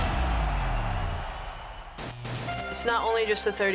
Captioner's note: crowd cheering